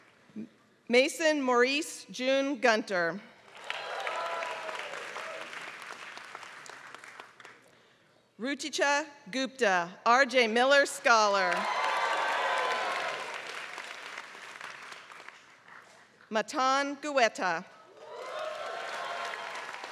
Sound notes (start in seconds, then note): 0.0 applause; 3.4 applause; 11.4 applause; 18.0 applause